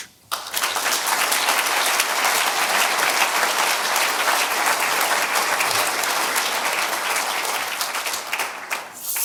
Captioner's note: audience applause